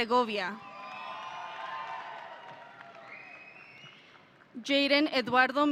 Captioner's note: audience cheering